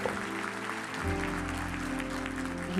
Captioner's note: applause